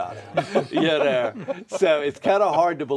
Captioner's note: all laugh